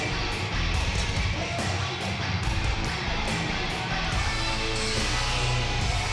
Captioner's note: energetic rock music; fans cheering